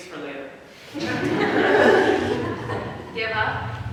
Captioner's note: audience laughs